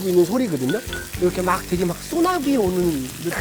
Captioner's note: can't hear anything other than the grilling sound